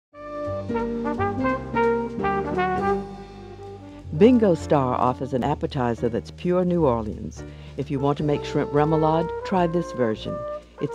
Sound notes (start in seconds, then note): 0.5 light music; 4.4 voiceover